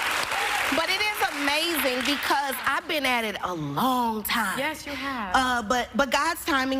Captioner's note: cheers and applause